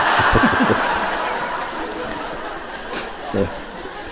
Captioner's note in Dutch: gelach